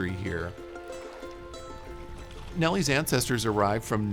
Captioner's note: happy music continues; water lapping